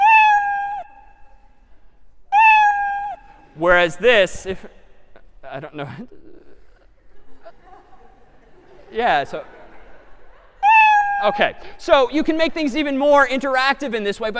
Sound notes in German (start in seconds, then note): 0.1 meow; 7.0 lachen; 10.6 meow